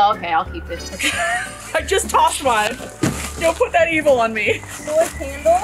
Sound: laughs

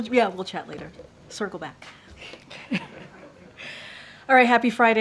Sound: laughter

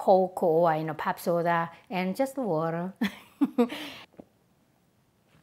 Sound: laughs

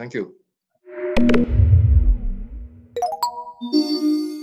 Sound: logo swooshing

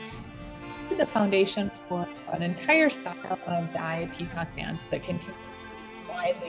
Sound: audio distortion

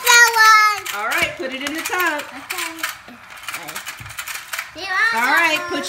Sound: voiceover

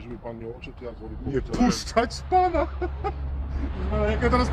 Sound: laughs

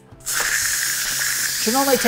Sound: air releasing

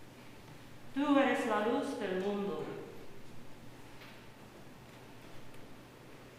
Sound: woman speaking in Spanish

